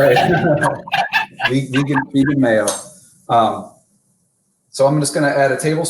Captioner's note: laughter